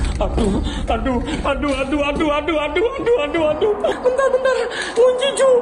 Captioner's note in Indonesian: tertawa